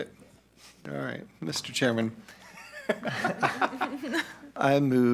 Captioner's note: all laughing